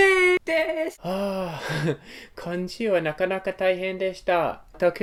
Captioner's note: sigh